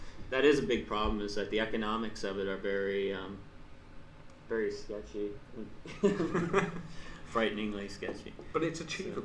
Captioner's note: laughs